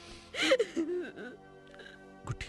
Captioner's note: crying